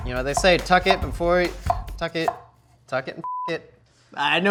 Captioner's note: beep